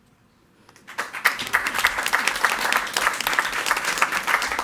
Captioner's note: all applauding